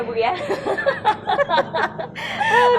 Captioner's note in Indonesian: laugh